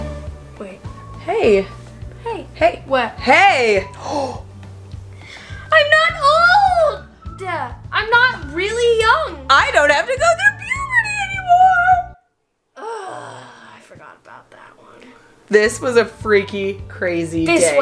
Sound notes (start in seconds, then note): 0.3 gasps; 5.2 gasps; 12.8 groans